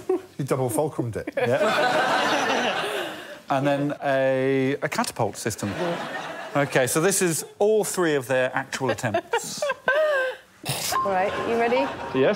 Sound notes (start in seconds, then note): 1.2 laughter